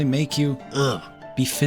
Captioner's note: ugh